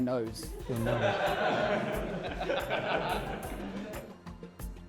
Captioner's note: laughter